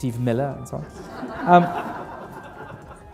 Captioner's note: laughter